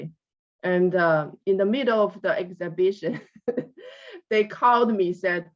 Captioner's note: laughs